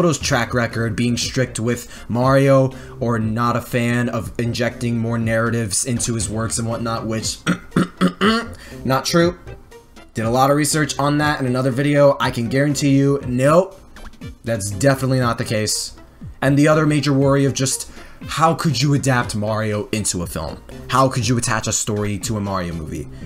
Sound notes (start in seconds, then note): 7.4 throat clears